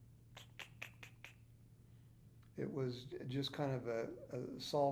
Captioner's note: trilling